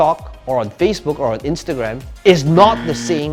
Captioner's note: beeps